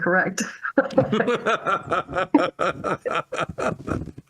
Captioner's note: laughs